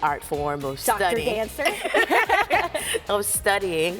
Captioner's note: laughter